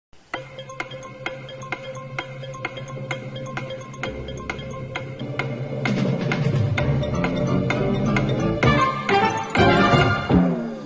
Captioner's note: stop clock tick sound